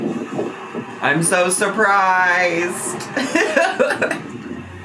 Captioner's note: laughs